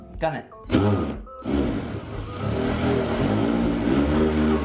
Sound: drill rumbling

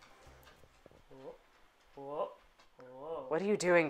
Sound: intrigued noises

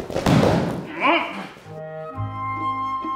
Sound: thud; grunt; playful music

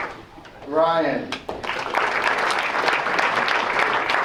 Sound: applause

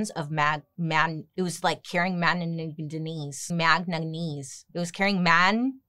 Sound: stutters

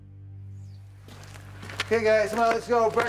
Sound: birds chirping

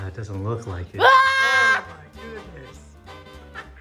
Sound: scream

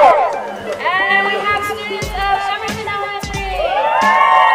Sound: cheering; cheering

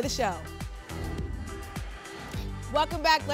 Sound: whoosh

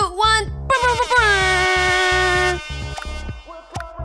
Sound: horns blaring

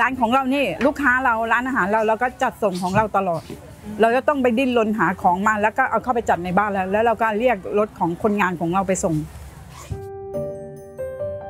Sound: speaking Thai

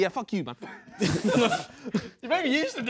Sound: Sidemen laughing

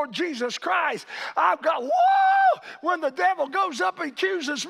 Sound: cheers

